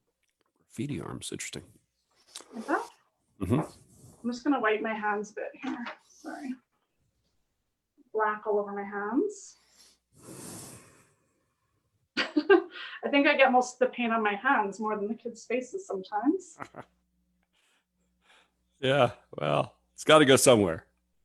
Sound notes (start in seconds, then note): 11.7 laughs; 16.5 laughs